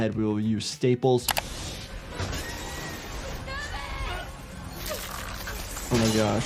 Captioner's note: glass shattering; passengers screaming